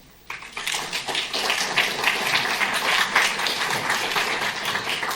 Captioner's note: applause